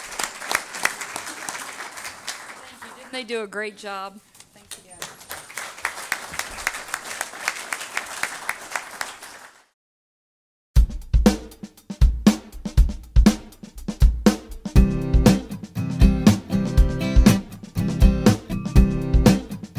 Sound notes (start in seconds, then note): 1.8 audience applause; 6.3 music playing-- no dialogue